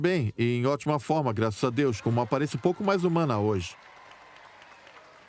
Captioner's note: crowd cheering